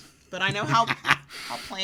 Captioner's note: laughs